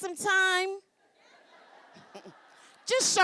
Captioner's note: laughing